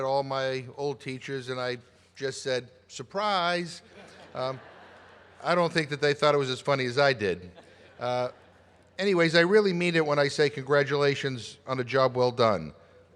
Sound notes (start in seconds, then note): 3.8 laughter